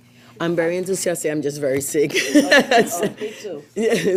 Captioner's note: laughs